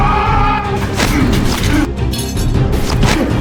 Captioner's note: Chris yelling; men grunting; knife clatters; Don groaning; fist thudding